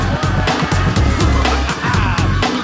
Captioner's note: laughing; screaming